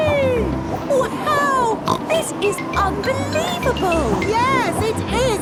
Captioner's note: snorts